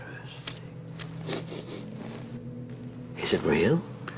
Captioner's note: sniffing